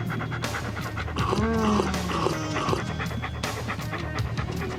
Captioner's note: dog lapping; seductive music